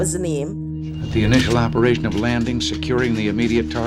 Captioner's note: soundbite of archived recording